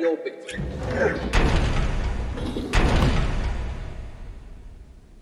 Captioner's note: mechanical noise of door slamming open and then shut